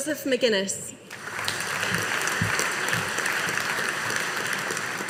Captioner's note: audience applauding